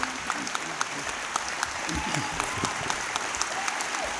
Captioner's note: applause